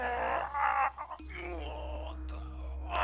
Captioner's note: groans